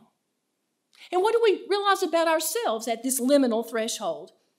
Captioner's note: speaks in foreign language